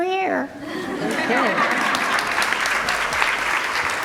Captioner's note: group laughter